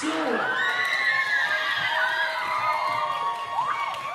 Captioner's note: audience cheering